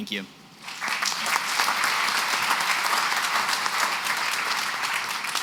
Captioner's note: applause